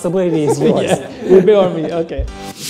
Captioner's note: laughs